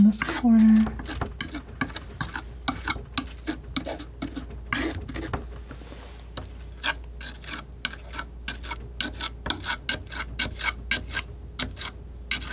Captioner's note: scraping